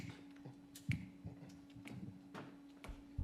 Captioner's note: snapping